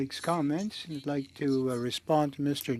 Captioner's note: speaking French